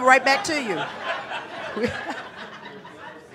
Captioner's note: audience laughing